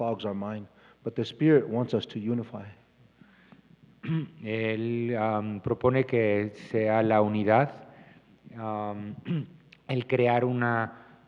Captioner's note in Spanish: Expositor habla en inglés